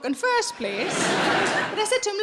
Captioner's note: audience laughing